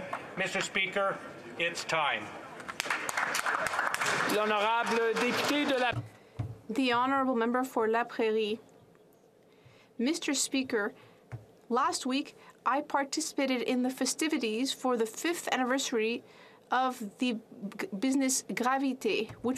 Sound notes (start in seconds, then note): 6.3 applause